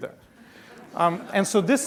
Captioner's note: laughing